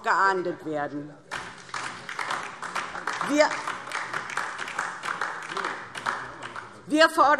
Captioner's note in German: Beifall DIE LINKE und vereinzelt AfD